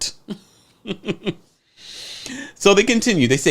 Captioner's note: laughs